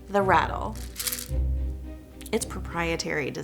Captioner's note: container rattles